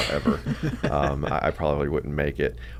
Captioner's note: both laugh